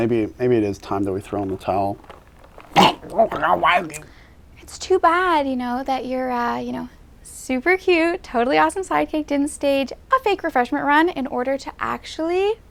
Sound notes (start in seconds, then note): 1.4 choking sounds